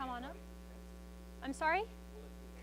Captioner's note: student speaks faintly